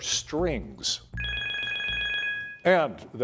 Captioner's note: bell ringing